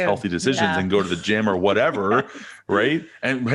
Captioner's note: laughing